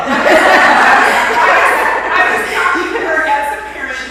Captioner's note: laughter